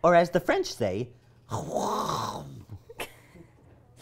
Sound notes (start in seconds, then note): 1.6 throaty spluttering that sounds nothing like French